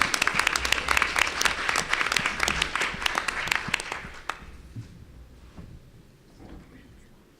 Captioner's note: applause